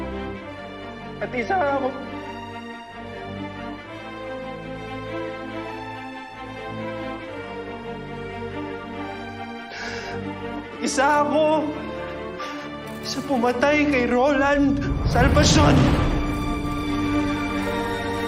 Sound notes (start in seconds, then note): 2.6 somber music continues; 9.7 inhales heavily; 16.3 somber music continues